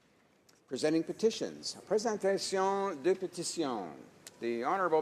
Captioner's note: speaking French